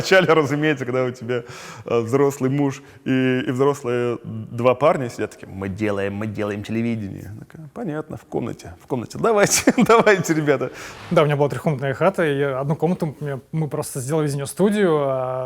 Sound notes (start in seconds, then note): 10.5 laughs